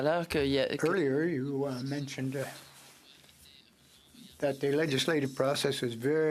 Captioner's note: speaking French